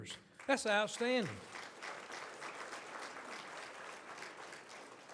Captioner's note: audience applauds